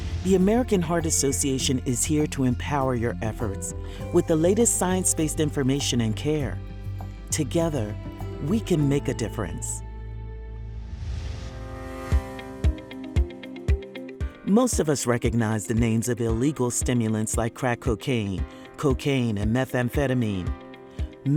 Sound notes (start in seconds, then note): 10.4 swoosh